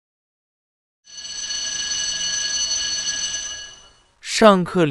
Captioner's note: riiiing